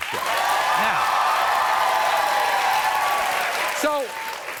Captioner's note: audience cheering